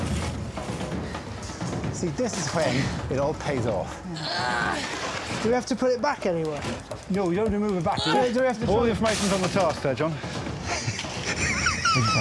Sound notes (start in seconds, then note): 4.1 Fern grunts